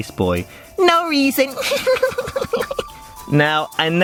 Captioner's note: giggles